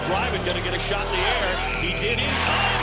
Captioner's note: buzzer